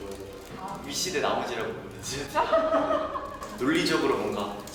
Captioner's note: haha